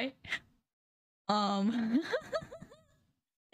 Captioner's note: laughing